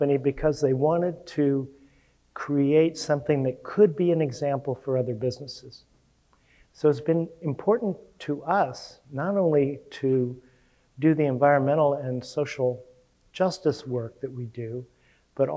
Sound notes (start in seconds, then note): none